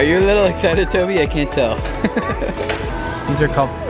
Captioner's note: laughs